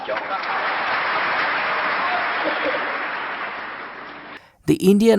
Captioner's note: applause